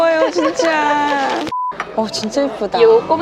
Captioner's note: beep